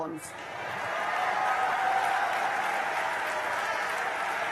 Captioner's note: cheering and applause